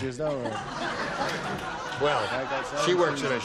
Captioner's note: laughter